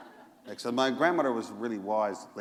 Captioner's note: laughter